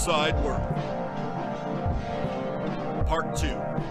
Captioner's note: sound of sirens